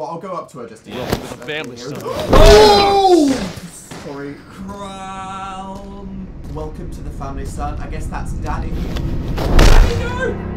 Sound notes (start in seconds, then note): 5.4 scared noises